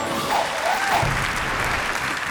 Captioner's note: audience clapping